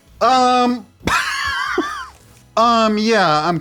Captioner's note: laughs